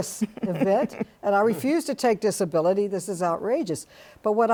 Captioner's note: panel chuckling